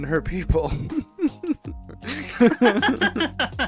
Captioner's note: laughs